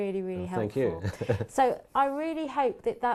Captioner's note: laugh